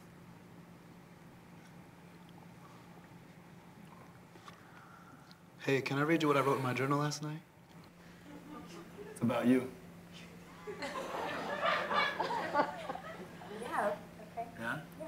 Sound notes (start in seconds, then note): 10.6 laughter